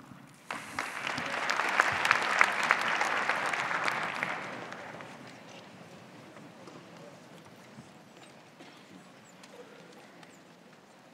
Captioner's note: applause